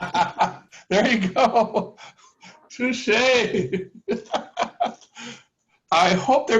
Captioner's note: laughter; laughter